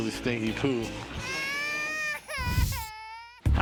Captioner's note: baby crying